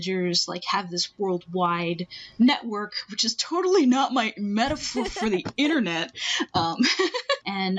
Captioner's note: laughing